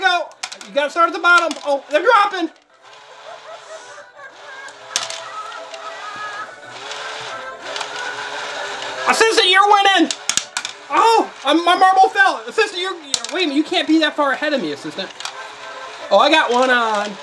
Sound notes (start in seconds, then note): 2.8 caterpillar laughs; 3.8 animated music